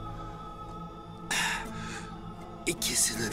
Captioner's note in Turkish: Nefes sesi